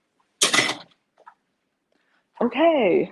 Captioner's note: door clanks